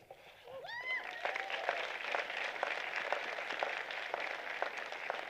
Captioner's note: applause